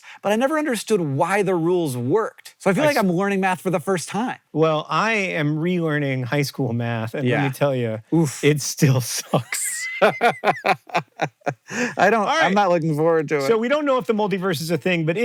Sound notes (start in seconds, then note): 9.2 BOTH laugh